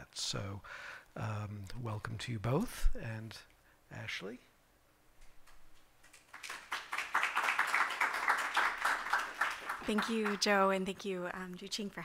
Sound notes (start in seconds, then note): 6.0 applause